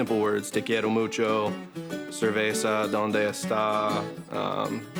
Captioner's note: speaks Spanish